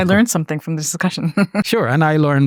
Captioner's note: chuckles